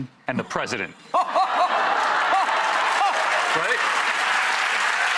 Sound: audience laughs and applauds

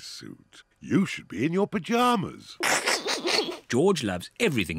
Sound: chuckles

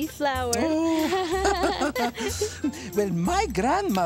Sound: laughing

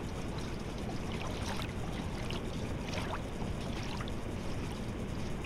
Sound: ambient water sounds

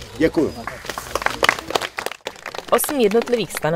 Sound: potlesk

